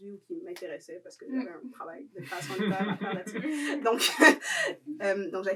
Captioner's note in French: rires